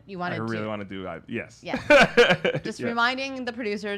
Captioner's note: laughs